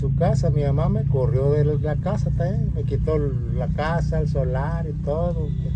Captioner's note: speaking in foreign language